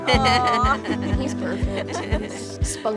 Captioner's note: laughing